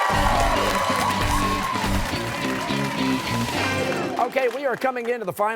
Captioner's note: cheers and applause